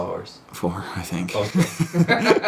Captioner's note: laughs